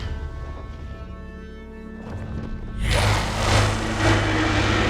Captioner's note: dragon growls